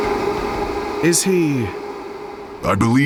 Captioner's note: fizzing, then silence